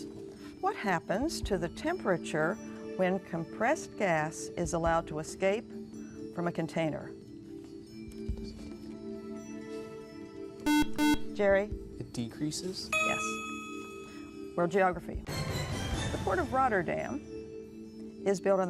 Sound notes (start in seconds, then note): 8.1 whispering; 10.6 buzzer